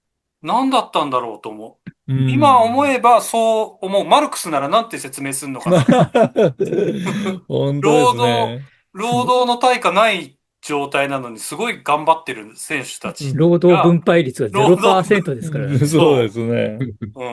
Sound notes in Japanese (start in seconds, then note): 5.6 笑い